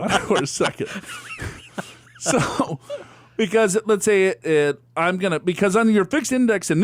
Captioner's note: laughs